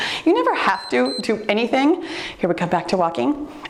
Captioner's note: timer beeps